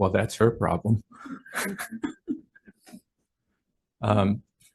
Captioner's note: woman chuckling